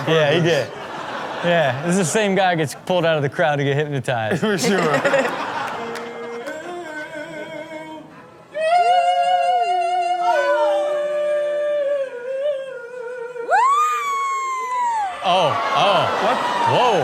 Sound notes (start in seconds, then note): 4.3 Chanel laughing; 6.2 waiter vocalizing; 13.4 patron cheering